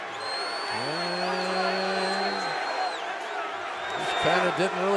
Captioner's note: whistle